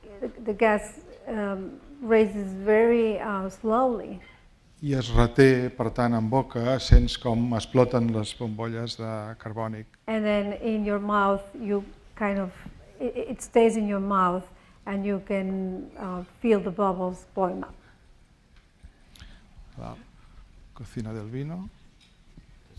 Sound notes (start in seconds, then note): 5.2 speaking spanish; 20.8 speaking spanish